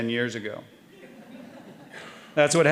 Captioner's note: audience laughing